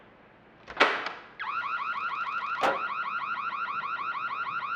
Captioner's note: alarm ringing